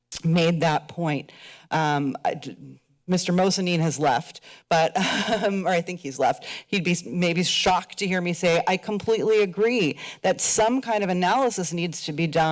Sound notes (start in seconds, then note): 5.0 chuckles